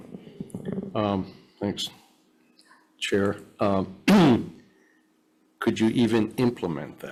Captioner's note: clears throat